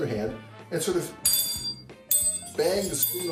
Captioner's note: ting